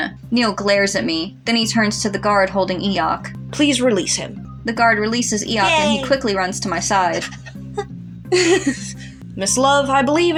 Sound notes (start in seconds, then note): 6.8 laugh; 7.1 whimper